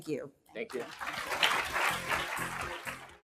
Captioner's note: applause